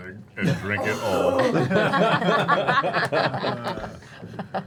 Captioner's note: laughter